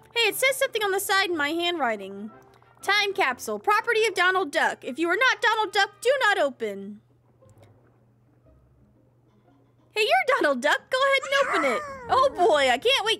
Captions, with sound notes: Hey! You're Donald Duck! Go ahead and open it! [Donald Cheers]